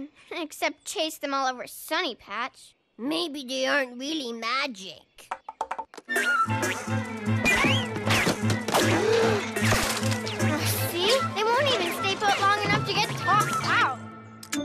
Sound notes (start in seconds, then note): 7.9 crash; 8.9 gasps